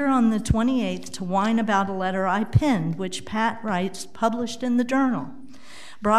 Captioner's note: none